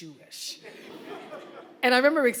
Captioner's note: audience laughing